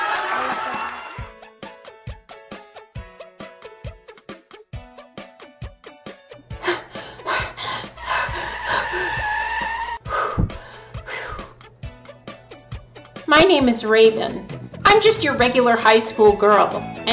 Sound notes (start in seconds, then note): 6.5 Raven, breathing heavily; 10.0 Raven, sighing in relief